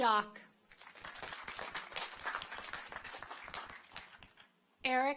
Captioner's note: audience applauds